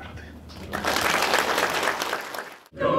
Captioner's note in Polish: oklaski